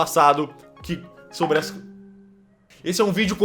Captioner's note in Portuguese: barulho de celular